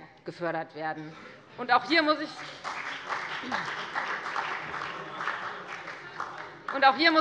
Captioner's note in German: Beifall bei der FDP und bei Abgeordneten der SPD